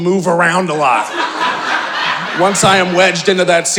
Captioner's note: audience laughing